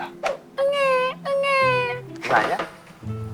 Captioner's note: crying